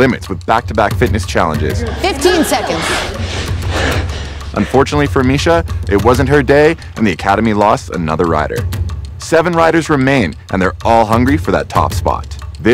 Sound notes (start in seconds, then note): 1.8 rider breaths heavily